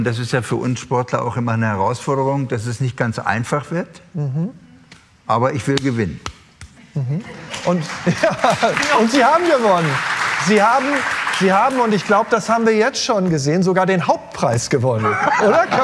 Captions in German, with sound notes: und das ist ja für uns Sportler immer eine Herausforderung, dass es nicht ganz einfach wird. - Mhm. Aber ich will gewinnen. - Mhm. Und ja ... (Lachen, Applaus) Und Sie haben gewonnen. Sie haben, ich glaube, das haben wir jetzt schon gesehen, sogar den Hauptpreis gewonnen.